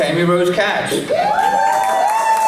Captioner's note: applause